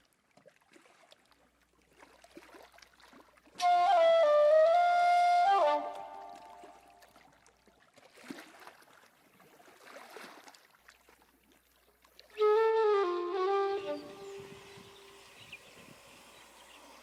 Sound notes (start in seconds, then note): 13.7 birds chirping